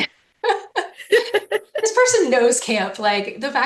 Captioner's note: chuckles